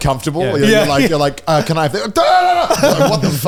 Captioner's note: shouting